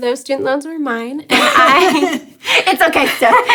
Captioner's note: laughs